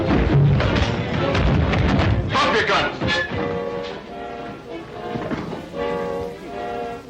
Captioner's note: bodies thudding